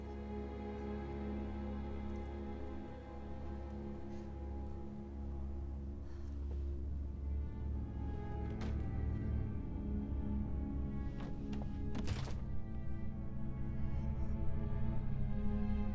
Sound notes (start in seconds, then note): 11.1 door thuds